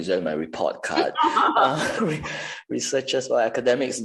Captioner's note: laughter